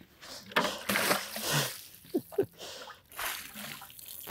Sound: water splashing

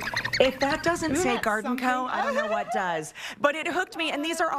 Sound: chirping

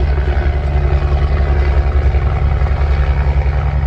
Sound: helicopter engine noise

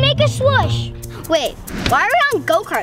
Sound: air whooshing

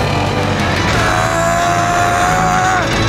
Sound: grunting

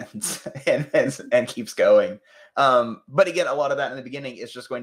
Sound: laughs

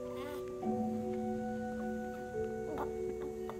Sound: baby cooing

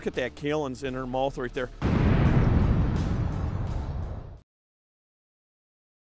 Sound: explosion

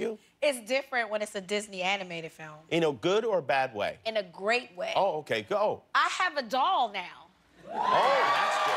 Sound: cheers and applause

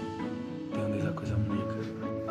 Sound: speaking native language

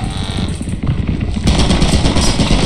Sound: Turret blaring; turret shooting; spider crawling

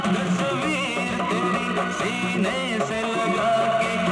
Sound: none

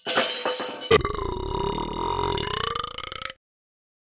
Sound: burps

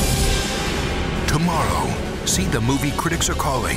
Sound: voiceover

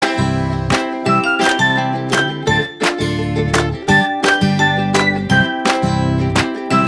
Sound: applause

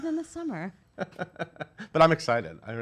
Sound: laughter

